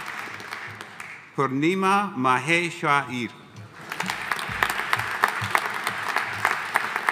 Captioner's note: audience applauding